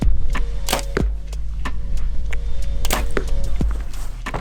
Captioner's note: energetic music; arrows whooshing